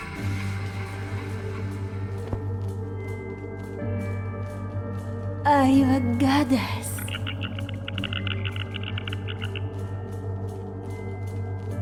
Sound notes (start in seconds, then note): 0.3 soft dramatic music; 7.9 creature chittering